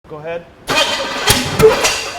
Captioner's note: engine backfires